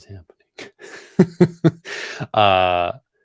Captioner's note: laughs